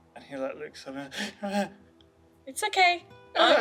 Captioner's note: gasps